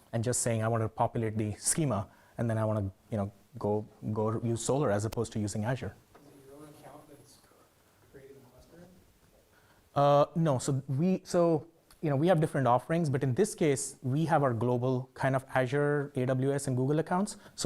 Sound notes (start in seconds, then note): 7.4 man speaking faintly off microphone